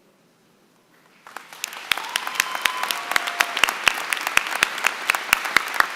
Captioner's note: applause